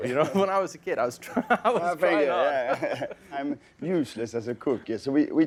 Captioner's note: laughing